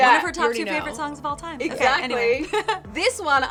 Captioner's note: chuckles